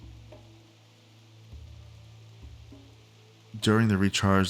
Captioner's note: silence